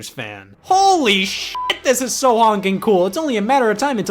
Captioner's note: beep